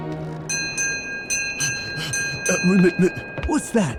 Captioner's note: the ship bell rings